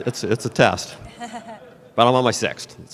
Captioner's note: laughter